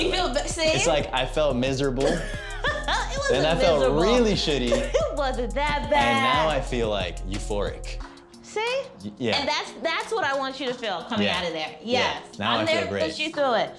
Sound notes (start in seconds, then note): 2.1 laughs